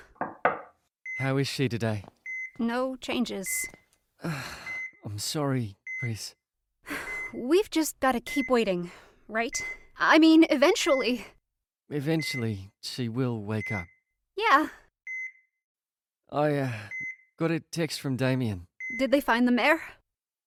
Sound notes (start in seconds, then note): 0.1 knock on door; 4.2 sighs